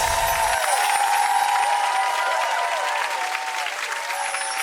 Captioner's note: twinkling sounds; audience applauds and cheers